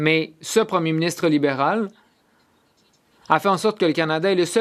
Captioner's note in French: voix de l'interprète